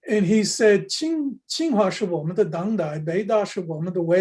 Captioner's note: speaks Chinese